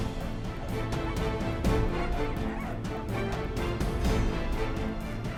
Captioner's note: dramatic music; dogs barking